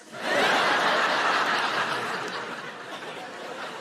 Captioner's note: audience laughing